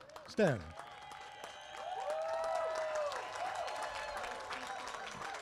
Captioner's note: applause